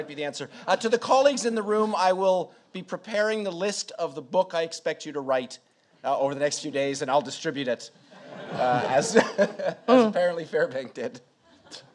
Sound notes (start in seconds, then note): 0.0 laughs; 8.1 audience laughs